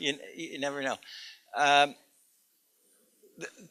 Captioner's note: laughter